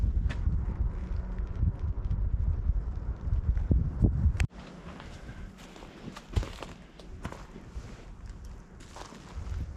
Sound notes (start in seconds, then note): 1.6 wind